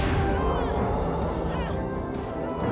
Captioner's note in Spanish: quejidos